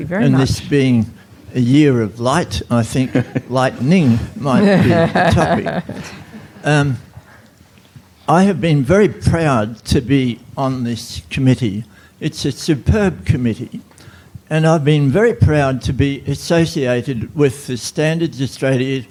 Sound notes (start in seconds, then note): 6.2 audience Laughter